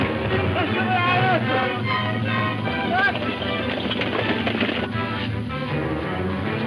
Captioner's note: Red Hatchet speaking in foreign language